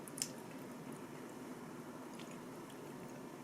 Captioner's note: nom nom nom